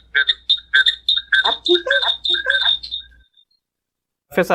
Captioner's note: echoing